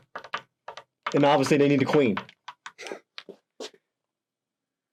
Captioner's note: chuckles